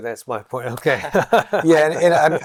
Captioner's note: laughter